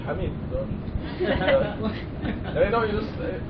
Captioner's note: laughter